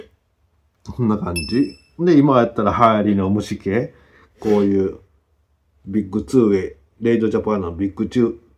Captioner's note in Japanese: 鼻息